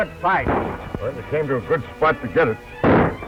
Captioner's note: gunshot